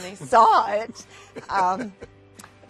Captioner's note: laughs